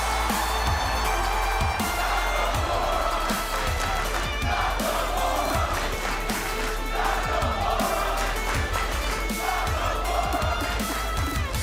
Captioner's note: cheers and applause